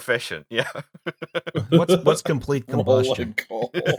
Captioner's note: laughter; laughter